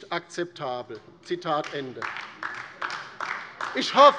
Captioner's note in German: Beifall DIE LINKE